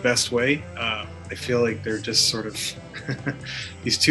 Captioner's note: laughs